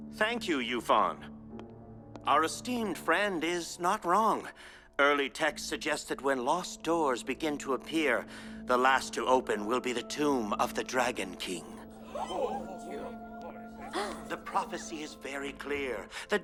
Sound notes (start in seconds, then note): 12.1 gasps